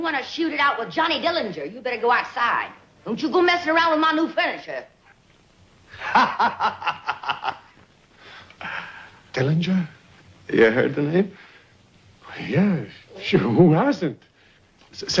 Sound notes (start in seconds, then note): 6.0 Johnny laughing